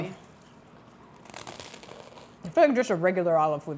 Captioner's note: bruschetta crunches